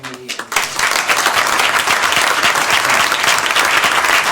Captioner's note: applause